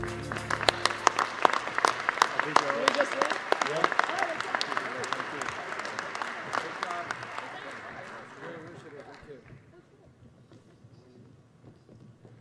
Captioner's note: applause